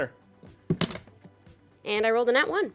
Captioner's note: roll dice